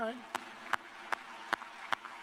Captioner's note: applause